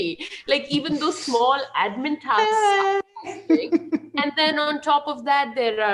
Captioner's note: chuckles